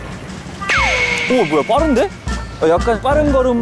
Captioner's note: vroom